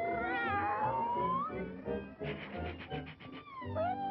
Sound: meow

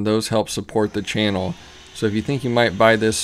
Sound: saw whirring

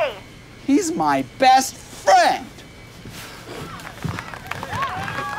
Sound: crowd applauding

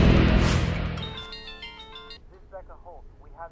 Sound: phone rings

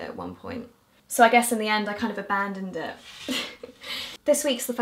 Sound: giggles

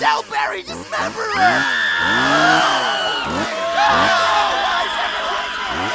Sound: chainsaw; screams

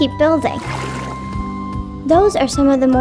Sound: liquid splashing

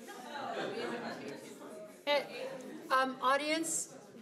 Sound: audience murmuring

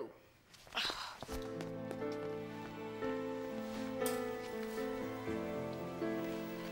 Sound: groaning; somber music

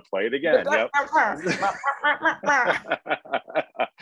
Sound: laughing

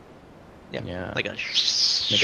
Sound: whistling

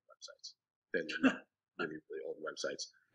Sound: laughing drowns out speaker

